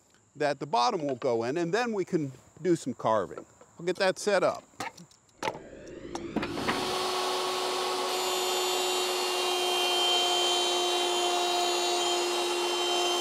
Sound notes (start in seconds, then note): 5.6 saw revving; 6.3 wood banging